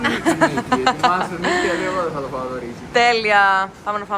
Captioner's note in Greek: γέλια